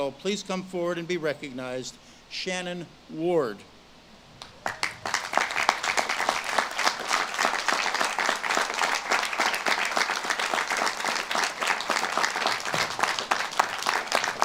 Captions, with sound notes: please come forward and be recognized, Shannon Ward. (audience claps)